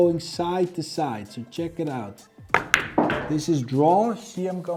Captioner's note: pool ball hitting